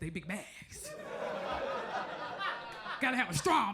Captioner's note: crowd laughs